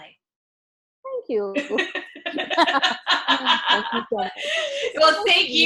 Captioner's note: laugh